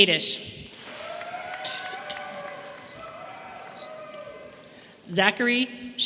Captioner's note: audience applauding and cheering